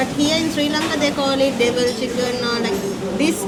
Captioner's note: none